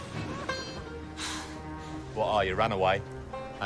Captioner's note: sighs